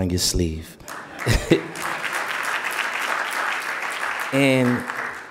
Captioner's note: audience applauding